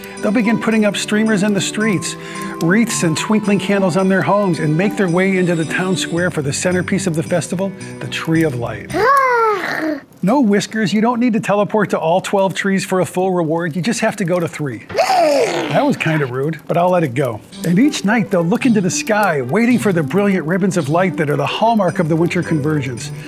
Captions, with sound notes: They'll begin putting up streamers in the streets, wreaths and twinkling candles on their homes and make their way into the town square for the centerpiece of the festival, The Tree of Life. [Whiskers gasps] No, Whiskers, you don't need to teleport to all 12 trees for a full reward. You just have to go to 3. [Whiskers grunts] That was kind of rude, but I'll let it go. And each night, they'll look into the sky waiting for the brilliant ribbons of light that are the hallmark of the Winter Convergence.